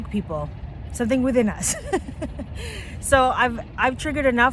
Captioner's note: laughs